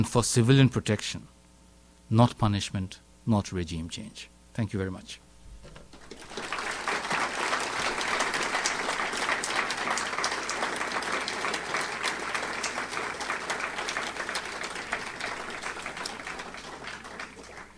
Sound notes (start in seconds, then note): 5.9 audience applauds